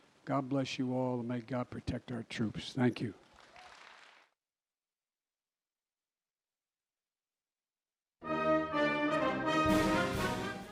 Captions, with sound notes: God bless you all, and may God protect our troops. Thank you. (Applause.)